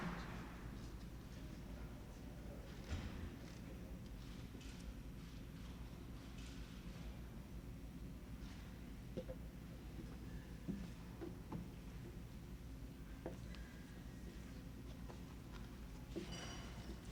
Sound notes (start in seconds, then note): 1.1 applause